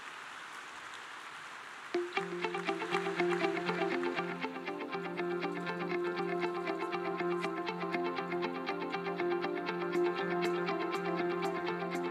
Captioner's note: applause